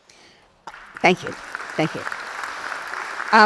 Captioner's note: audience applauds